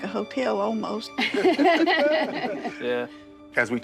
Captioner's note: all laughing